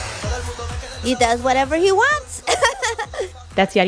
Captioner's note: laughter